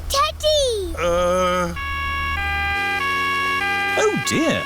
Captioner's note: siren wailing